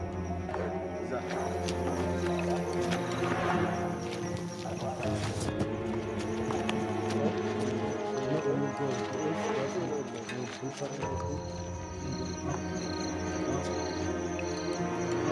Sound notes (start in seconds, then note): 7.6 indistinct chatters